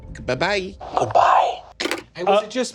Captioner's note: phone clicks